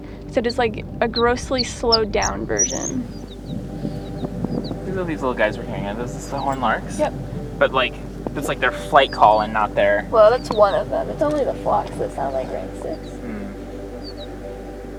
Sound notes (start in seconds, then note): 3.1 distant chirping